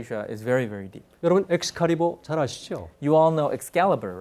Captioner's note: speaking in Korean